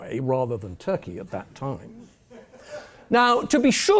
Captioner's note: laugh